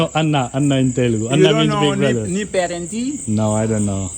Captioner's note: asks something in Telugu